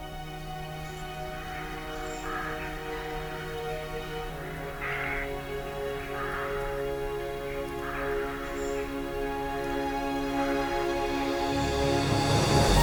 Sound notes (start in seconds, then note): 0.1 gentle music; 5.1 birds call; 10.1 gentle music